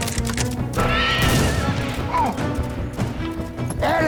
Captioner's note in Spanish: Disparos